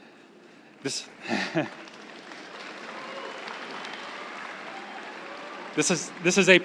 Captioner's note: crowd cheering and applauding